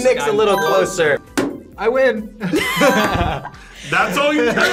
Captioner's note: laughs